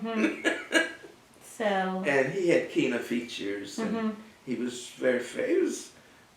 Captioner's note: laugh